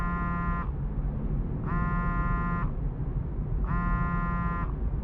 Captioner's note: phone continues to buzz